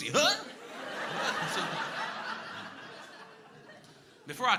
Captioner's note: crowd laughing